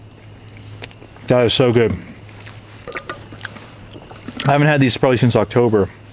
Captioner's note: chomping